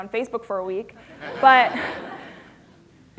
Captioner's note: laughter